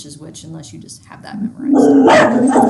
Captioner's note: dog barking drowns out speech